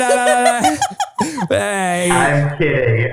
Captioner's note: laughing